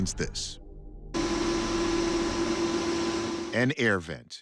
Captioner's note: buzzing